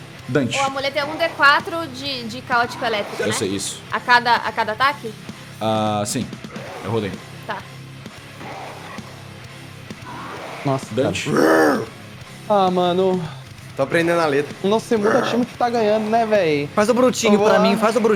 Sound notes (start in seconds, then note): 14.9 roar